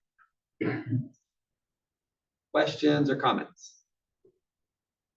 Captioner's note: cough